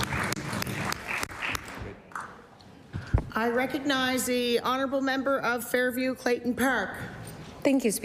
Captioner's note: applause